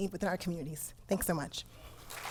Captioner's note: applause